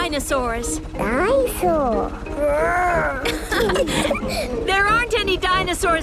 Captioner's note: laughing